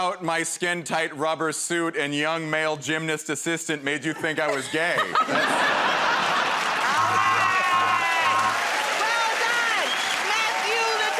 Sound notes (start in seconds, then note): 6.0 laughter; 9.6 cheers and applause